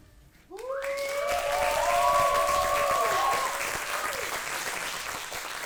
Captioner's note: audience applauds and cheers